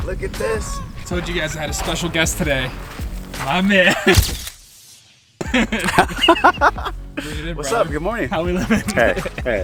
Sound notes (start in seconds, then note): 4.2 camera click; 5.4 laughs